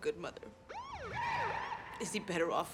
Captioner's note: siren wailing